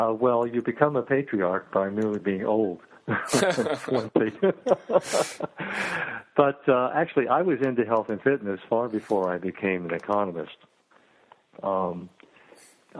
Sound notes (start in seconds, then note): 3.1 laughing